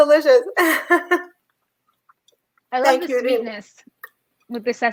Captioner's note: laughs